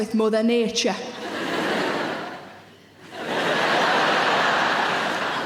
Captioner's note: audience laughs